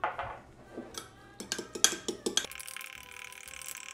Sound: whisking

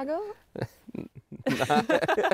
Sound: he laughs

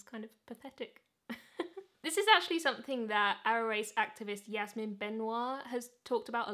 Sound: chuckles

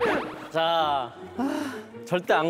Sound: sigh

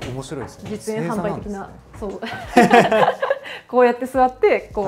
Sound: laughter

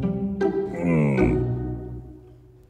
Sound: Camelot grunting

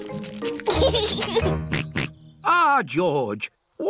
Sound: snorts

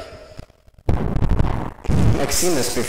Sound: intense mic handling & breathing

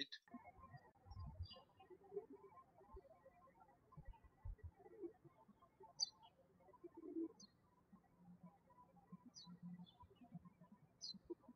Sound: birds chirping

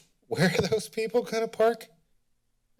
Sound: chuckles

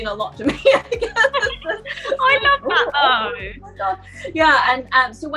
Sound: laughter

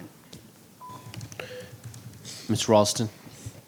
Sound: beeping

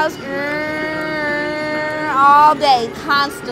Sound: bus noises

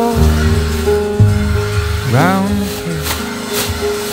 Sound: sander whirs

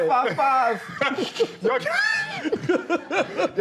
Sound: laughter

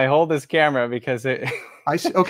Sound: laughs

